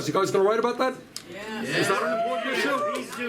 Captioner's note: cheering